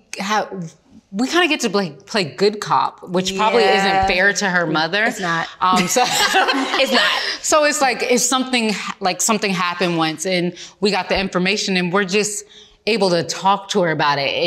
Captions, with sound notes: we kinda get to play good cop, which probably isn't fair to her mother. - It's not. (all laughing) It's not. - So it's like, something happened once and we got the information and we're just able to talk to her about it